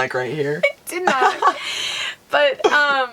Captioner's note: laughing